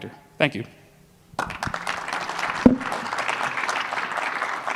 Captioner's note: applause